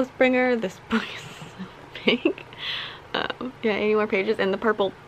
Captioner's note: laughing